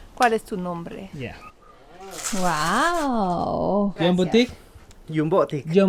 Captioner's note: speaking in Spanish